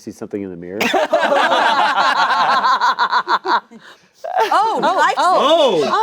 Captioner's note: everyone laughing